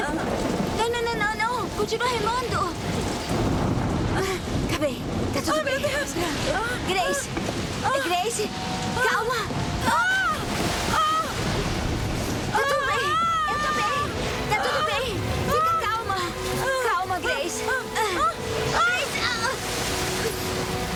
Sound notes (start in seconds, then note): 10.1 Grace screams; 18.6 Grace yells